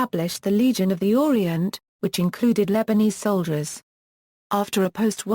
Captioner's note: Turkish